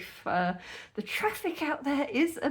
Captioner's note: none